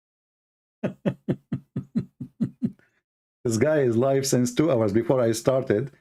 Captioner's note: Ketawa